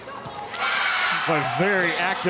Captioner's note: audience cheering